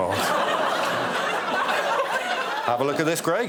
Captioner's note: laughter